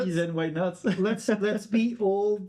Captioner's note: laughing